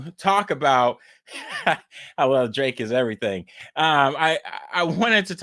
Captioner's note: laughs